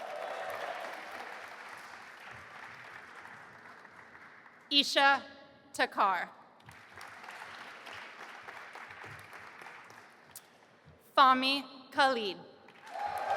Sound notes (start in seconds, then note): 0.0 audience applauding; 6.7 audience applauding; 12.8 audience applauding and cheering